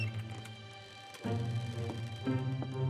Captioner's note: door openning